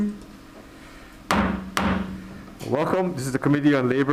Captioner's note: gavel bangs